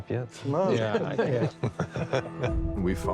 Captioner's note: chuckling